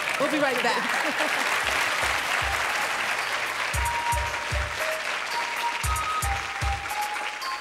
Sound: applause

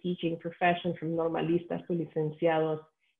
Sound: speaking spanish

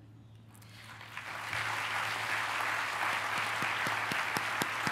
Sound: applause

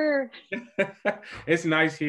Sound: laughing

